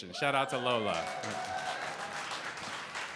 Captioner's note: cheering, applause